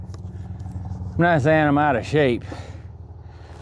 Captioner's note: exhales